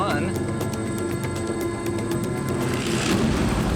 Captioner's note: none